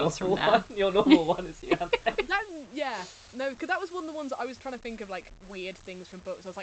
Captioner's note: laughing